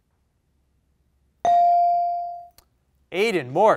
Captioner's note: bell rings